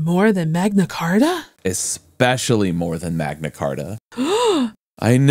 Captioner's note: gasp